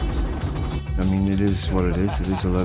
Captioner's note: laughing